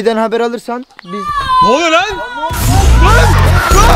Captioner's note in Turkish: bağırma sesi